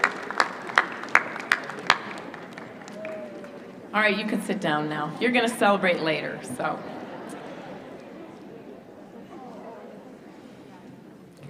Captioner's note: applause